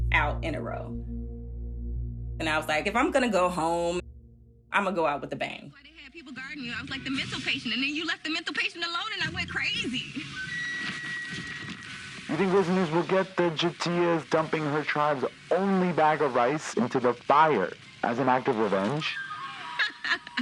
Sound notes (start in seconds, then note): 5.0 soundbite of tv show, "survivor: cagayan"